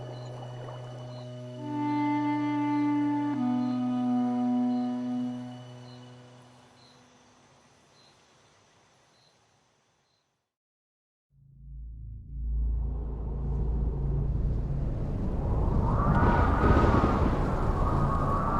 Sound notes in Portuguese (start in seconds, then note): 7.2 Sons de grilos; 9.2 Sons de grilos evanescem; 15.8 Sons de tempestade e raios